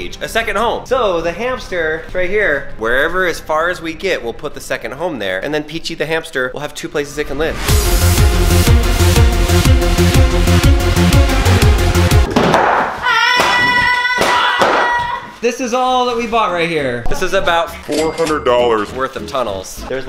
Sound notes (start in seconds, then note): 7.0 dramatic music; 12.8 popping and shouting